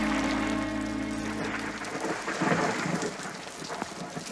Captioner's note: thunder rolls